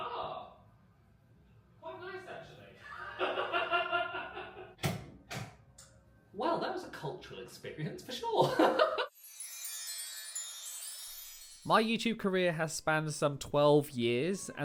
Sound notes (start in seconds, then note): 2.9 laughs; 9.1 magical music